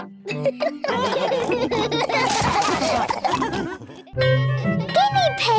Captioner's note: all giggle